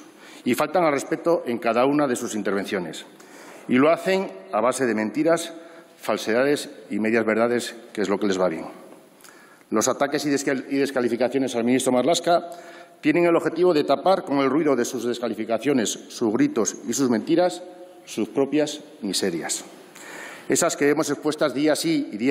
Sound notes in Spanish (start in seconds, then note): none